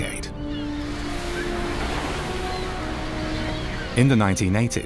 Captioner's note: waves crashing